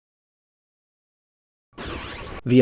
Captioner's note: awkward silence